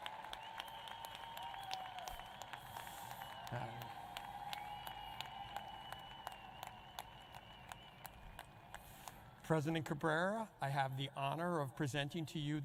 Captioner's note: applause